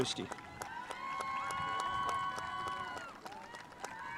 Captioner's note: spectators applauding